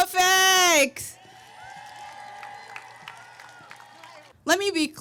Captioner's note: audience cheering